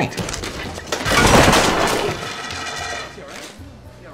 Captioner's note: crash